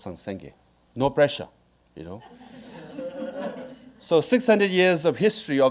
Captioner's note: audience laughing